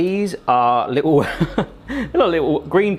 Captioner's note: laughing